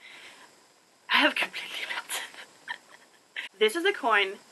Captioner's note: laugh/cries